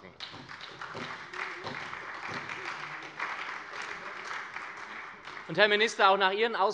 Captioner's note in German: Beifall bei der SPD